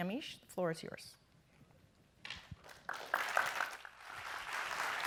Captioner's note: applause